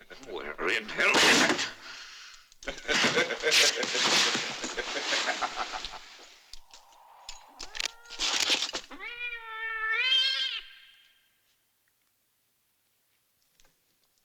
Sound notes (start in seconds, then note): 2.6 Indio laughing; 9.0 cat yowling